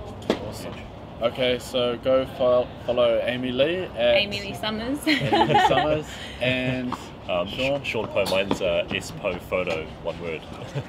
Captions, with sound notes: - Awesome. - Huge. - Okay, so go follow Amy Lee at ... - AmyLeeSummers. (laughter) - AmyLeeSummers and ... Shaun. - Shaun Poh, mine's spohphoto. One word.